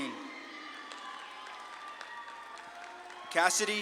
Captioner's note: audience claps and cheers